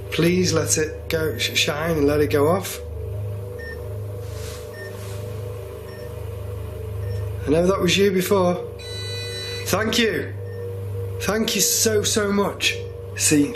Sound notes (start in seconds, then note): 4.4 beeping; 8.8 solid beeping